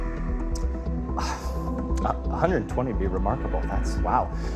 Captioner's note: sighs